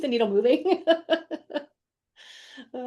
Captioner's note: laughs